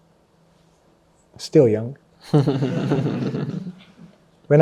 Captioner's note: laughs